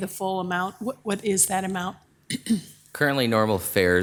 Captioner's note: clears throat